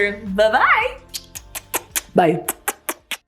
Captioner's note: lips smacking